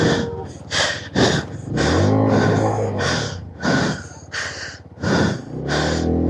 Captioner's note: gasp; sigh